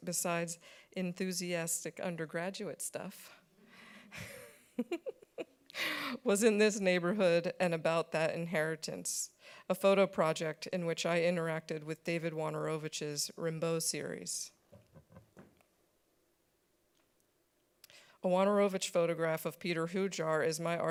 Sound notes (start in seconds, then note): 4.2 every laughing